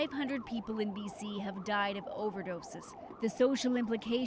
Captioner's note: sirens